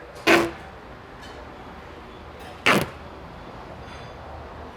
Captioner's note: duct tape pulling